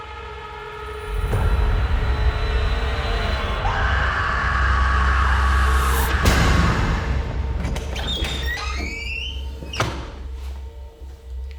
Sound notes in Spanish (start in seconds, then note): 3.6 Debra grita; 6.9 música dramática